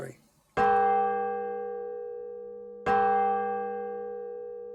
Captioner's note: church bell peals